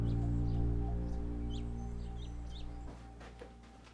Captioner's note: ominous electronic accent; birds chirping